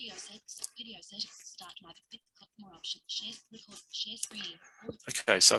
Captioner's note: fragmented, rapid speech